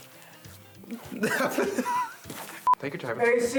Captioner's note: laughs